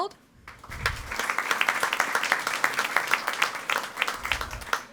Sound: audience applauding

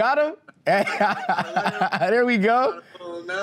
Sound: laughing

